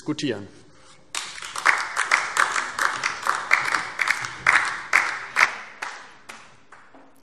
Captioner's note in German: Beifall DIE LINKE